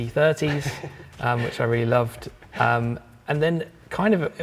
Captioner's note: chuckling